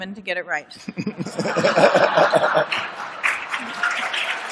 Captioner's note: laughter and applause